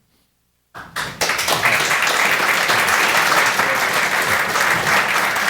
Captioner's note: applause